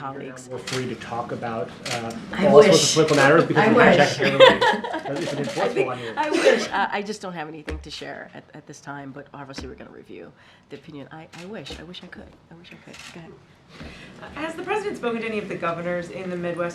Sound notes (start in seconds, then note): 4.1 laughter